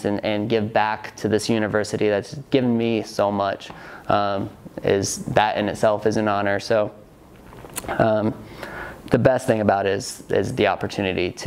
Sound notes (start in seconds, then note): none